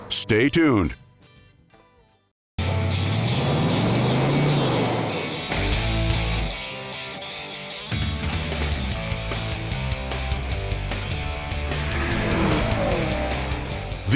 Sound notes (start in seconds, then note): 2.7 country music; 2.7 engine revving